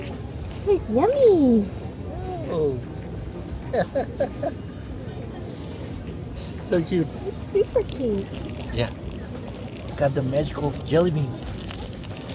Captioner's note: laughter